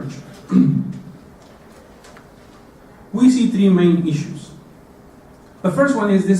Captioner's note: cough